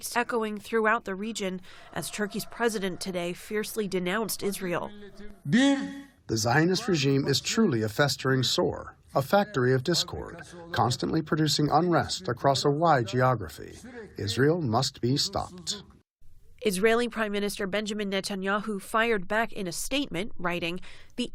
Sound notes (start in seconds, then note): 6.8 through translator